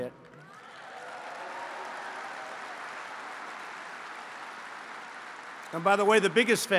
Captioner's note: applause